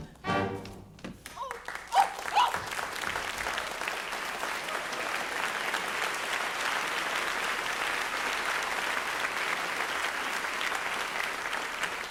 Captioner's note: applause